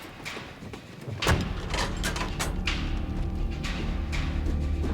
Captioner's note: latches racketing